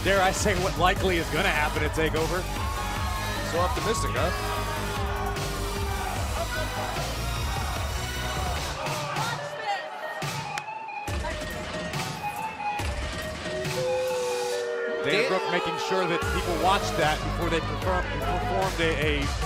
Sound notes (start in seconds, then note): 8.7 crowd chatter